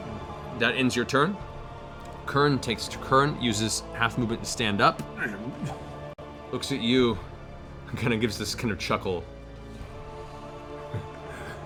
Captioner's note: grunts